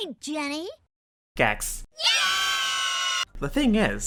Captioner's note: kids cheer